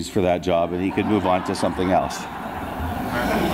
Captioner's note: audience laughs